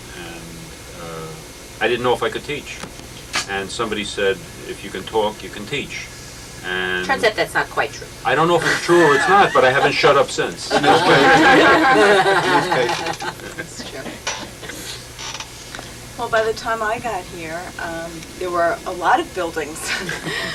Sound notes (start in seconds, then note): 14.6 laughter